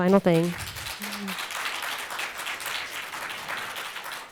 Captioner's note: audience applauding